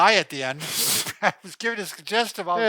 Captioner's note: chuckles